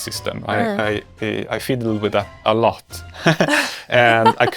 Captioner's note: laughs